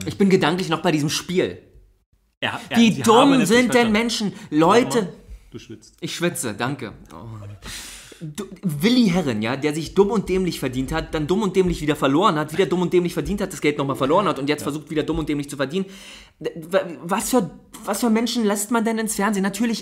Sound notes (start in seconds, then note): 7.1 moans